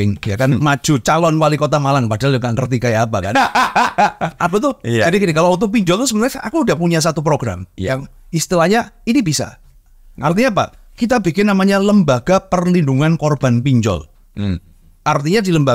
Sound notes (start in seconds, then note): 3.3 laughs